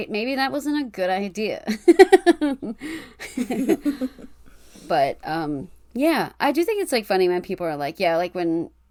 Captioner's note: laughs